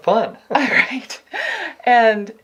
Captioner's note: laughs